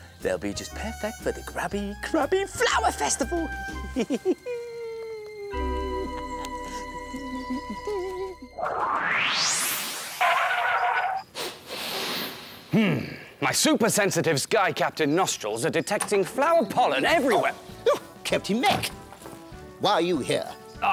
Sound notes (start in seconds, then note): 11.3 super sniff!